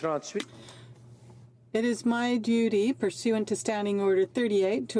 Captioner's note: speaking French